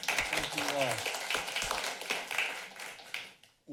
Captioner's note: applauding